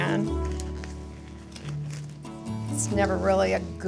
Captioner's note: gloves rustling